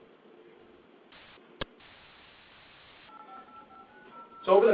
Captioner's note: silence